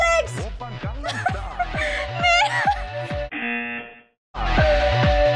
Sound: laughs; buzzer

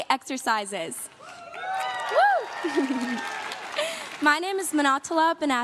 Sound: crowd claps and cheers

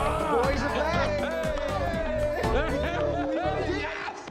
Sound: all cheering and laughing; Ricky laughing

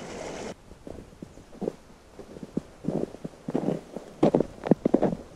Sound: feet crunching on snow

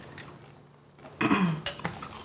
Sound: throat clearing

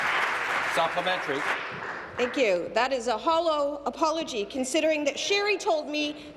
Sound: applause

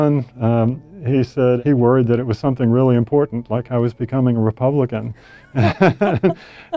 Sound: laugh

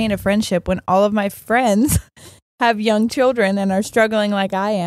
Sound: none

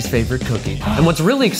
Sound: gasps

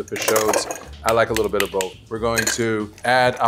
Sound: spoon tapping

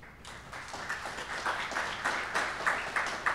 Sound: applause

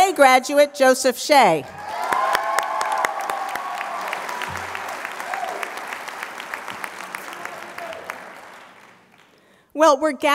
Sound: applause

